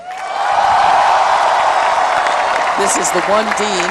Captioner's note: applause